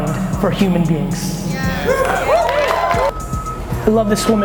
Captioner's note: audience cheers and applauds